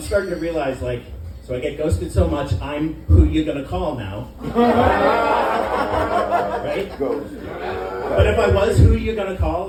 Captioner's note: laughter